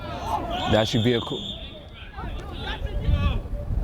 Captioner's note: whistle